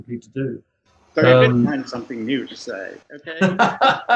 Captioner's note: laughs